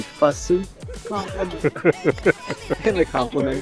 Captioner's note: laughing